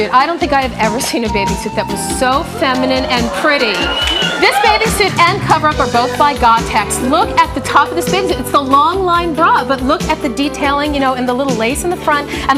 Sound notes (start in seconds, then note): 2.9 audience whistling and cheering